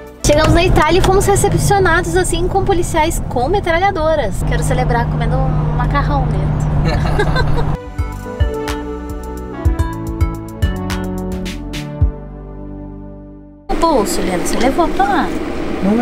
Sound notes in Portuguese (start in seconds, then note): 6.8 risos